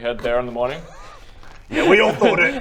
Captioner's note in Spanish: no puede evitar reír